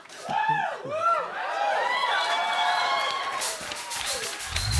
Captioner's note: laughter; cheers and applause; sultry music plays